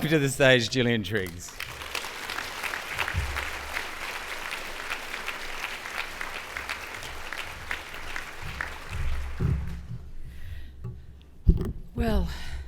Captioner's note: applause